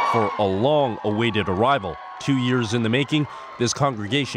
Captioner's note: cheers and Applause